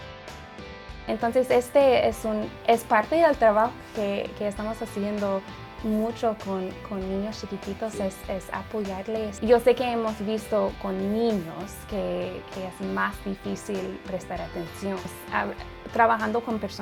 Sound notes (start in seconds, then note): 1.6 speaks in foreign language